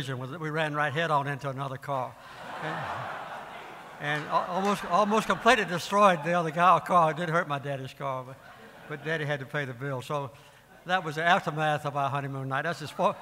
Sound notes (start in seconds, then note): 2.2 audience laughing